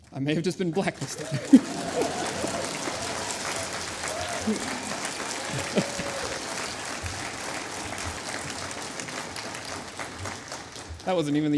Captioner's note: applause